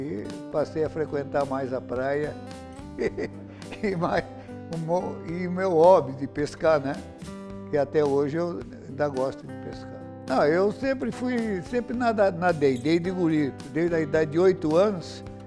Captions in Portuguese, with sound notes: e passei a frequentar mais a praia (risos) e meu hobby de pescar, né, que até hoje eu ainda gosto de pescar eu sempre fui... sempre nadei, desde guri, desde a idade de oito anos